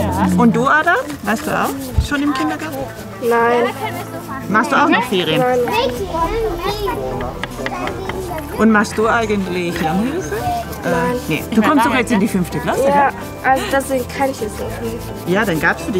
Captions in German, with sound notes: Und du Ada, warst du auch schon im Kindergarten? Nein. Machst du auch noch Ferien? (Heiteres Stimmengewirr) Machst du eigentlich Lernhilfe? Nein. - Nee. Du kommst doch jetzt in die fünfte Klasse. - Ja. Deswegen kann ich es noch nicht.